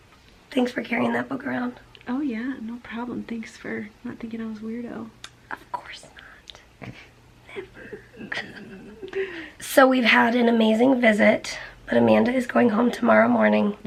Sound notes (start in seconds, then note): 6.8 both chuckling